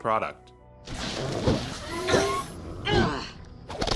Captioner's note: fighting noises